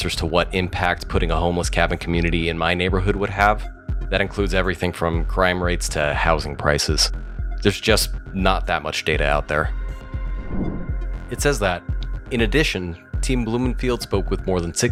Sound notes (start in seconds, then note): 10.2 air whooshes